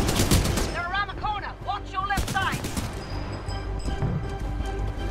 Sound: radio

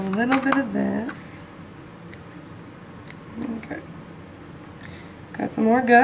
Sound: clipping sounds

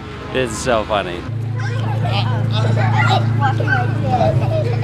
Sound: muffled children's voices

